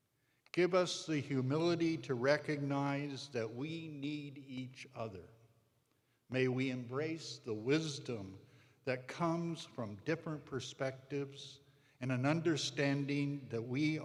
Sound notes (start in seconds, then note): none